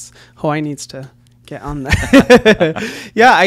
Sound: laughs

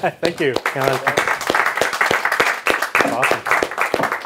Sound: audience applauds

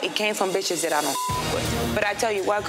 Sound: beep

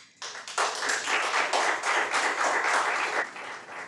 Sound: audience applauds

